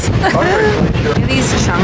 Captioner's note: fake cries